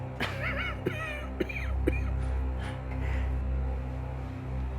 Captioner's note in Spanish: Jonathan tosiendo